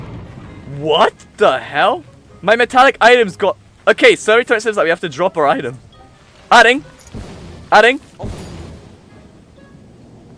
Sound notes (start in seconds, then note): 6.2 concerning electrical noises from hands